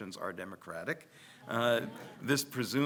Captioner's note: audience laughs